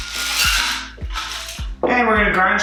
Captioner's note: ice rattling